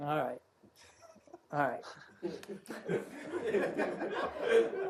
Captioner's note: laughter; laughter